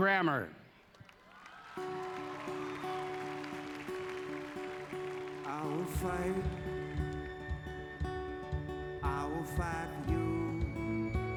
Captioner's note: applause